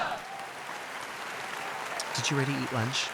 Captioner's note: audience applauding